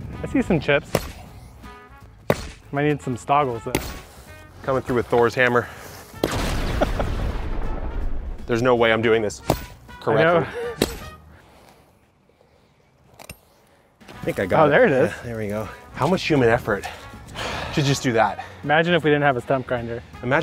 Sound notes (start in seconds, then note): 6.3 lightening sounds; 7.2 laughing